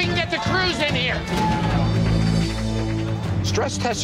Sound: cheers

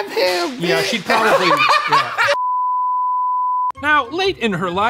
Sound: laughs

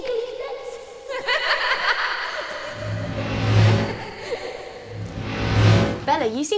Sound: Bellatrix and Narcissa laughing

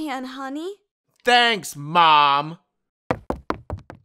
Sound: Sounding a little sarcastic with a little hint of tone towards Vader; footfalls

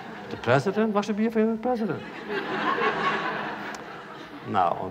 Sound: laughter; laughter

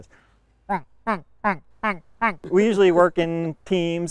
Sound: quack quack quack quack quack

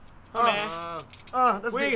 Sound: grunts

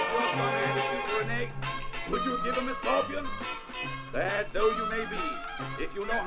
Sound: distant voice

